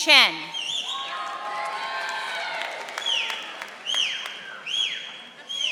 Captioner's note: audience applauding